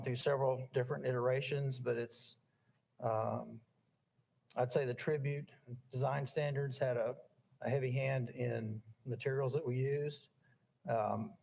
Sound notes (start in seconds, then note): none